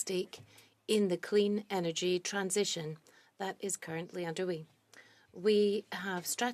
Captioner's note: speaking French